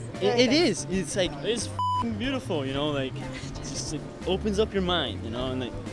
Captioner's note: beep